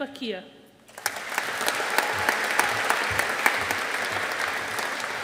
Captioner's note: audience applauding